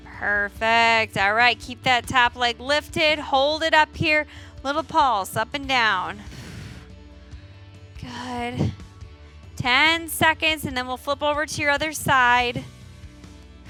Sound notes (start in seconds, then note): 6.3 exhales